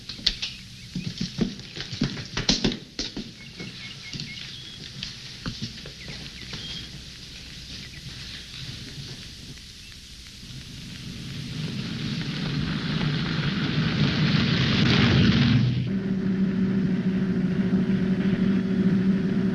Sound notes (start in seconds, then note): 0.1 birds chirping; 12.6 car engine roaring